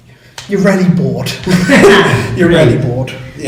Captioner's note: laughs